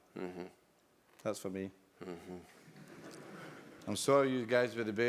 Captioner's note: laugh